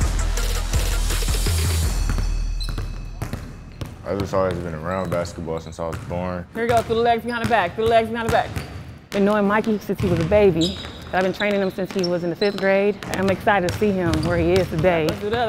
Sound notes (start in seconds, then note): 2.5 dribbling sounds